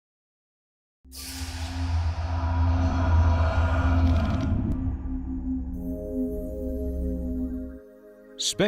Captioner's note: sound Effects